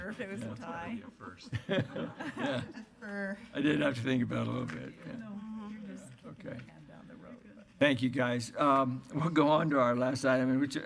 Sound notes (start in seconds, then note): 1.9 laughing